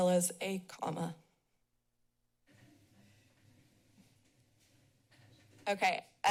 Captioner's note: short silence